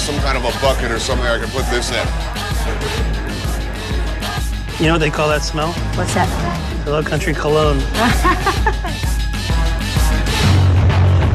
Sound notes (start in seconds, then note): 5.2 laughs; 7.1 rock music